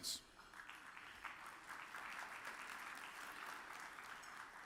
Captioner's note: audience applauds